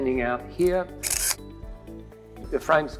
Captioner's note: camera shutters